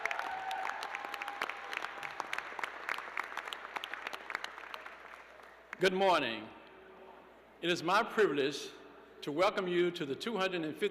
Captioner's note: cheers and applause